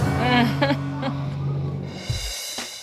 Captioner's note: chuckles